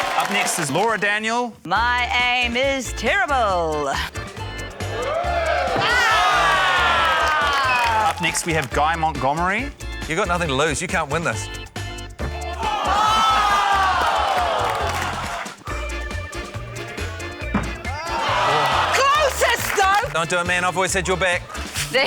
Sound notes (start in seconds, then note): 0.0 cheering, applause; 5.6 applause; 13.3 applause; 15.7 exhales